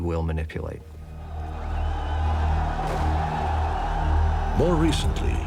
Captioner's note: crowd cheering